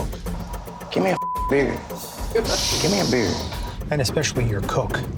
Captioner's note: beep